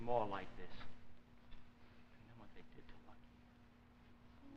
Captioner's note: Danny mumbling